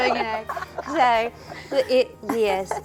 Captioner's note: laughter